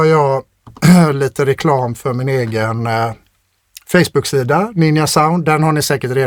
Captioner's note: clears throat